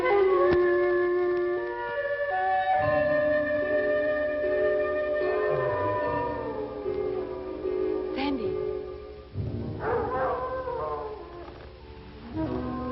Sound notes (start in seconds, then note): 1.6 eerie music; 6.0 wolves howling